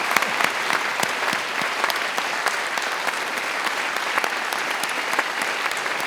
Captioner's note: attendees continue applauding